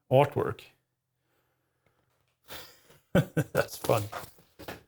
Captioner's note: laughing